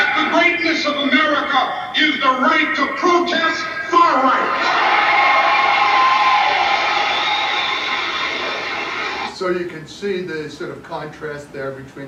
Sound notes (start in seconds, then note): 4.3 audience cheers